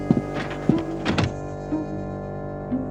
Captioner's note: gasping